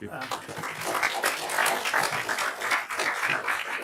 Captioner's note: applause